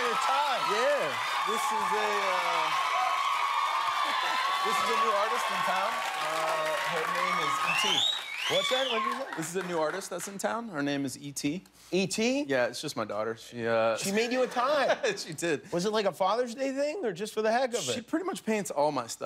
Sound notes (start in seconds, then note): 7.3 cheers and applause